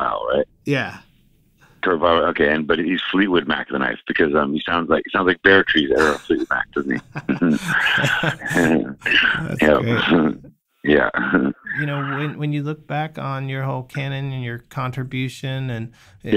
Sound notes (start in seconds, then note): 5.9 laughter